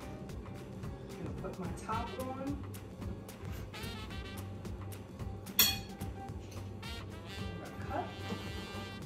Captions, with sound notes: Gonna put my top on. (glass clangs) I'm gonna cut.